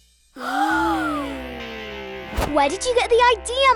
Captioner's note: uncertain music; princesses gasp